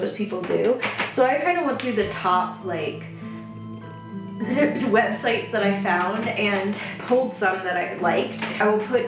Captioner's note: stammers